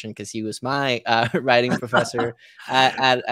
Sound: laughing

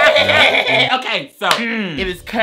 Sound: laughing

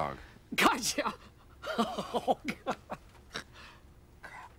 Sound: laughing

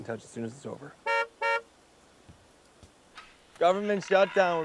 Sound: car horn honks

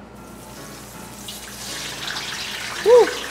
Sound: oil sizzling

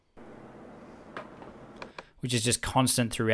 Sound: air conditioner humming

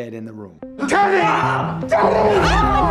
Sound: gasps

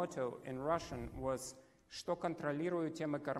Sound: foreign language

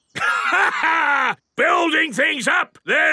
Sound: laughs

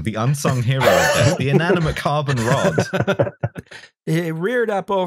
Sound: laughter

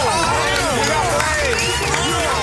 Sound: car honking; crowd clapping, whistling

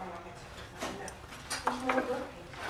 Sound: chatter

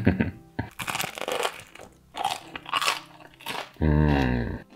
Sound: chuckling; crunching

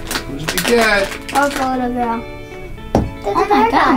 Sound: children talking softly

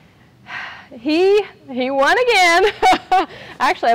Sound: sighs

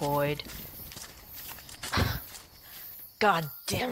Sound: flames die. Leaves rustle. Feet hit the ground and start running

